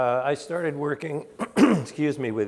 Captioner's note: clears throat